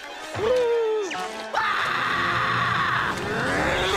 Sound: screaming

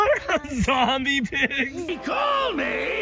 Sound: laughing

